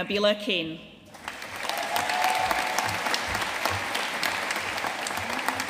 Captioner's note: audience cheering and applauding